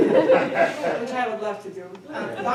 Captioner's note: attendees laughing